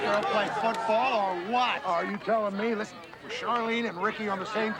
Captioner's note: cheering